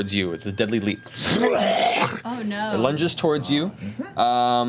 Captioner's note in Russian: рычит